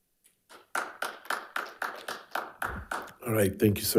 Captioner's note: attendees applauding